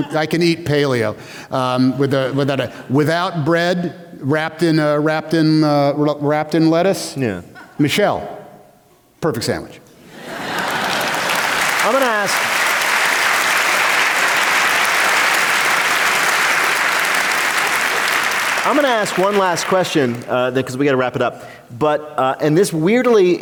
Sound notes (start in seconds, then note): 10.2 applause